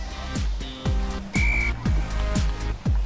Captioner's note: whistle